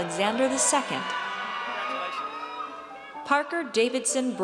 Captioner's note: audience cheers